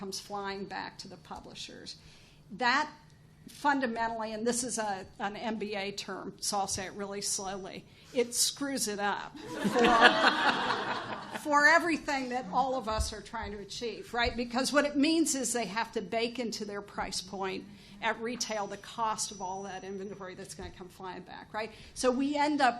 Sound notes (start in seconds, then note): 9.5 chuckles